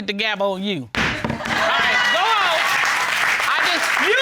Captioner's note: applause